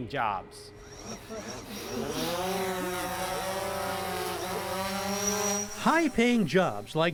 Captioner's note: drone takes off